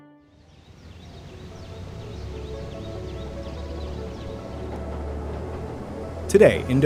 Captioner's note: gentle music; birds chirping